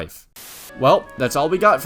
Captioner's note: static